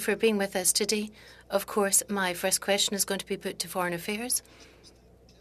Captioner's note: speaking French